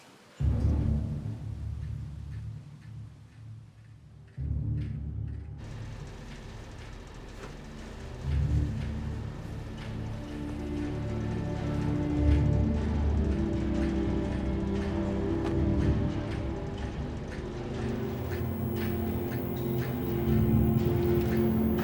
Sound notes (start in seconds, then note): 0.4 dramatic music; 5.8 AC humming; 11.5 dramatic music; 17.8 insects chirping